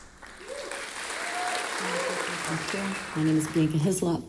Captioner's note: audience applauding